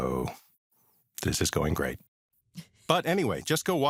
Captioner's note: chuckles